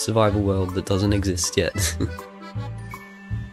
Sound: laughs

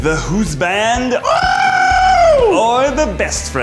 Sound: screams

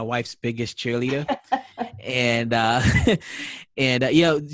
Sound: laughing

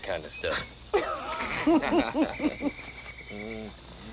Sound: laughter

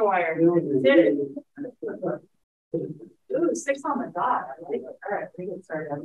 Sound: electronically garbled speaking

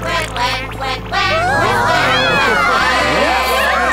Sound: awes from audience

